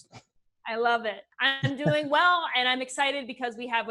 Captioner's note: chuckles